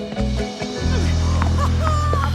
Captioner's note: grunting